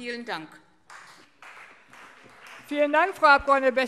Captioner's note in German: Beifall CDU und BÜNDNIS 90/DIE GRÜNEN